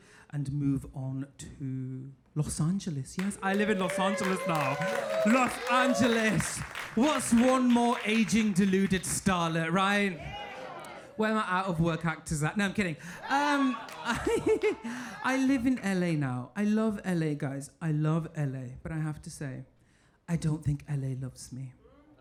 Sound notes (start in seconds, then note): 6.5 audience cheering and applauding; 10.4 audience cheering; 13.2 audience laughing; 15.2 laughing